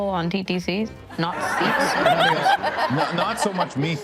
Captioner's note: attendees laughing